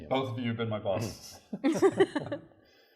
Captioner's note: laughter